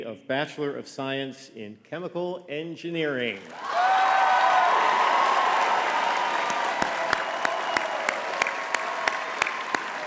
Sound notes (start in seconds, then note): 3.4 audience cheering and clapping